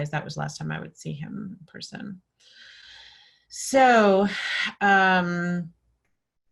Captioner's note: sighing